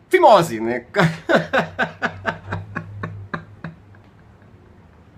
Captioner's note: laughs